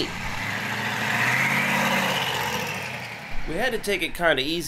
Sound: engine humming

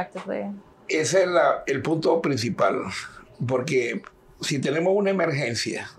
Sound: speaking in Spanish

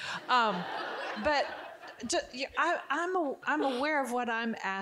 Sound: audience giggling

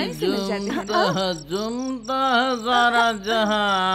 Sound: humming a song

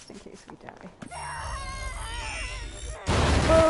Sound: screams

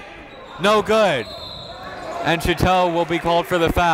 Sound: whistle blows

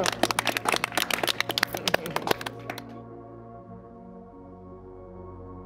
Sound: group clapping; light instrumental music

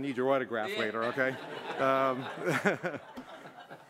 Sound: laughter

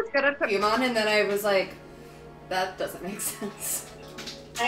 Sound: laughing

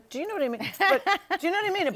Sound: laughs

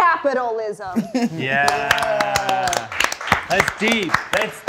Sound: applause

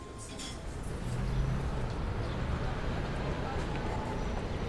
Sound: traffic sounds

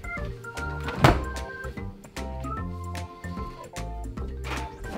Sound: door opens and shuts

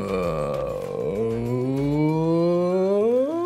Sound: humming

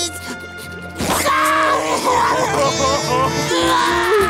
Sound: crying

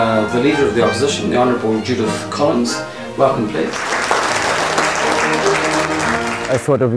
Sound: applause and music playing

